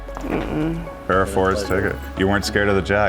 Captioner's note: groans